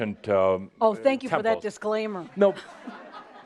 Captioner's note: laughter